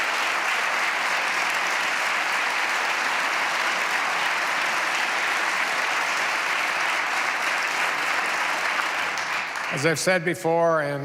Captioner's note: applause